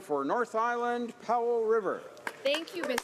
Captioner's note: applause